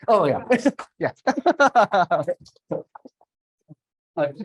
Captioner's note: laughter